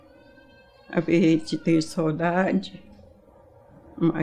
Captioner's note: crying